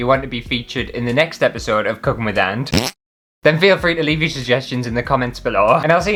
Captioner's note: fart